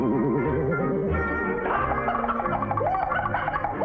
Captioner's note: laughter